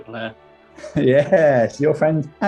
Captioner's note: laughing